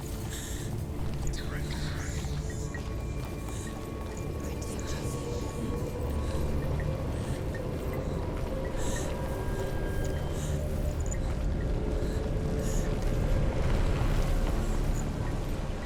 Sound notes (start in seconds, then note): 1.3 anxious breathing; 9.6 anxious breathing continues